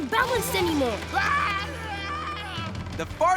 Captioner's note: screaming